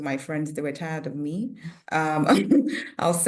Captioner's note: chuckles